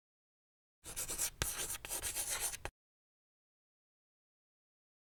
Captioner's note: chalk scratching